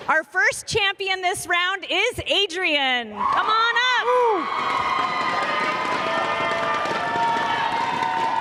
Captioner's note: cheers and applause